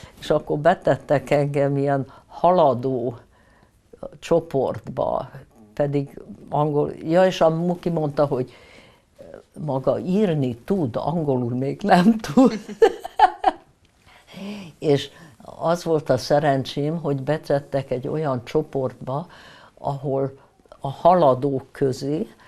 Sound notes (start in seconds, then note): 12.5 laughing